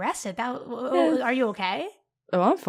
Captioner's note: stutters